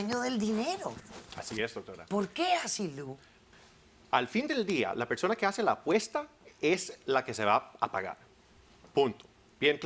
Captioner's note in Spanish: Comentarios al unísono